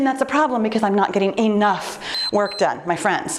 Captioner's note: timer beeps